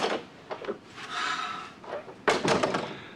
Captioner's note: door closes; sighs